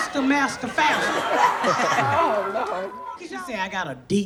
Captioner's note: audience laughs